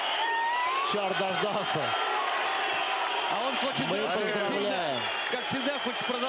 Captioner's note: cheering; cheers